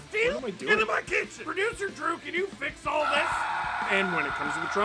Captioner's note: screaming